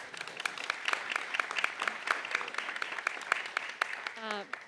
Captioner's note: applause